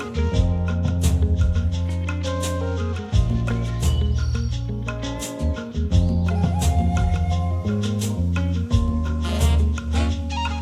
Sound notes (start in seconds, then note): 3.1 birds chirping; 7.9 soft music